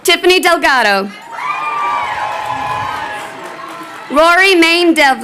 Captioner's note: crowd cheering